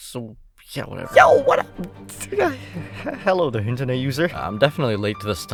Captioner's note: stutters